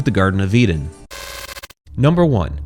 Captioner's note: static buzzing